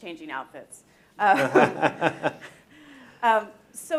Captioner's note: laughing